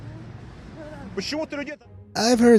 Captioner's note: passerby speaks in foreign language